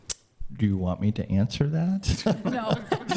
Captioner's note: laughs